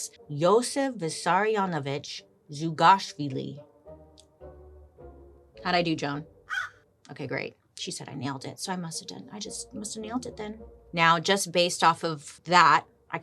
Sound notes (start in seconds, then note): 6.4 crow cawing